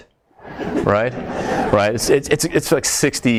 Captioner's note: audience laughs